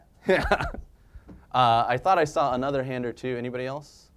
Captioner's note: laugh